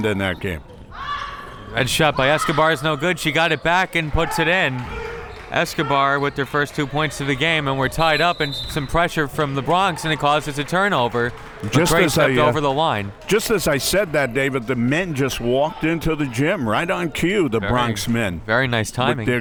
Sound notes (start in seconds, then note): 8.0 whistle tweeting